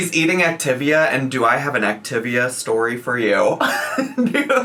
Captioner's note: laughs